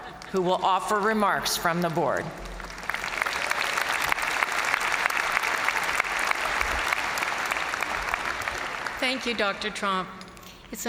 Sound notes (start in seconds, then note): 0.0 chuckling; 1.6 crowd applauding